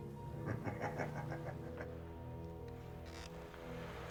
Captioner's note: Becker laughing